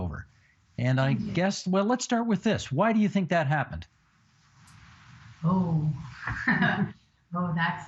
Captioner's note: laughing